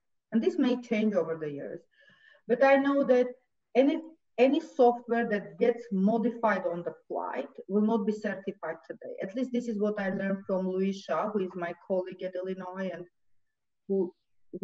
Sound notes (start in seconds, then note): none